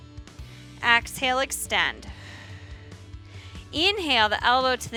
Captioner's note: exhales